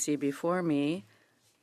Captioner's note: speaking in French